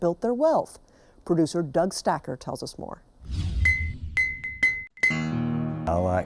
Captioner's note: clinking